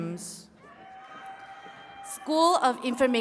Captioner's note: attendees cheering and clapping